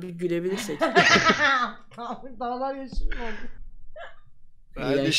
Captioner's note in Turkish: kahkaha